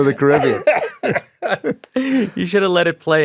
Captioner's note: chuckles; laughing